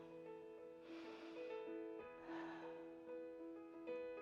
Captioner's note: inhales and exhales